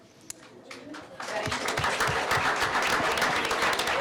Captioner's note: applause